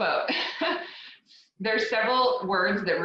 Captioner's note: laughs